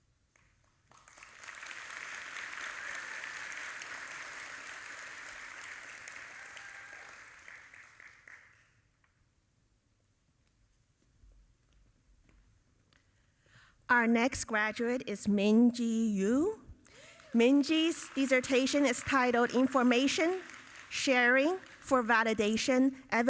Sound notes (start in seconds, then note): 0.4 audience applauding